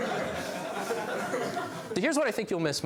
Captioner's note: laughs